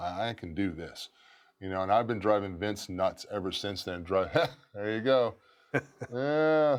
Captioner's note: laugh